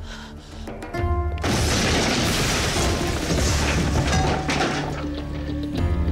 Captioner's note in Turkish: Patlama sesi